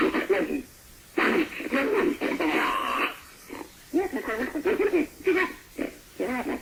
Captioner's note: creature continues vocalizing